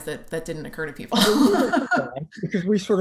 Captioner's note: laughter